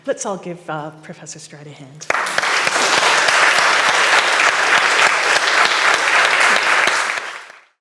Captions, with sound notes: Let's all give Professor Stride a hand. (audience clapping)